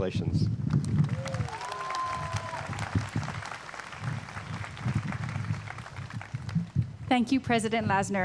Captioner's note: applause